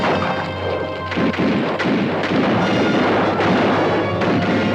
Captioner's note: guns fire